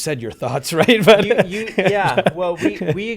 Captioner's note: laughs